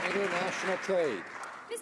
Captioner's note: some Applause